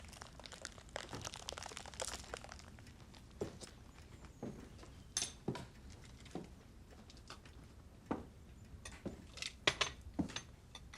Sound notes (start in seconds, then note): 3.3 footsteps; 9.4 cutlery clanking